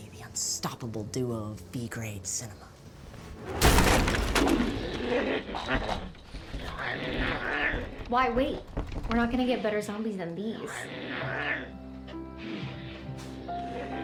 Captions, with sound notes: the unstoppable duo of B-Grade cinema. (DOOR CRACKING) (ZOMBIE GROANING) Why wait? We're not gonna get better zombies than these.